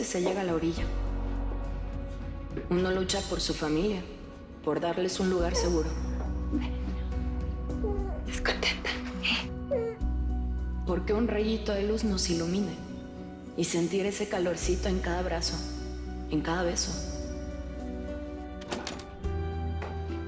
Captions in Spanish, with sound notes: PERO A VECES SE LLEGA A LA ORILLA. UNO LUCHA POR SU FAMILIA; POR DARLES UN LUGAR SEGURO. - TE VES CONTENTA, ¿EH? [Voz de Vicenta] - PORQUE UN RAYITO DE LUZ NOS ILUMINE, Y SENTIR ESE CALORCITO EN CADA ABRAZO, EN CADA BESO.